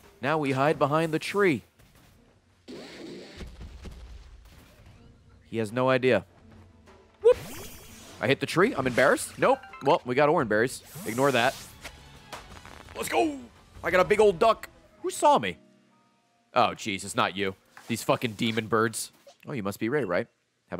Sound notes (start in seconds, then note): none